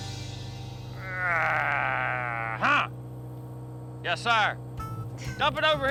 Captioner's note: grunts